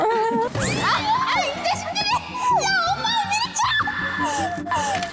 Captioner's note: utter chaos